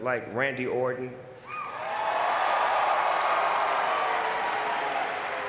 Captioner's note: audience cheering